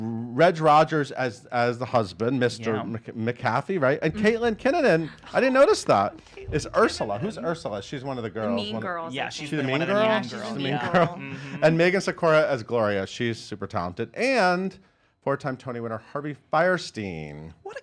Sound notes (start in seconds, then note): 10.4 chuckles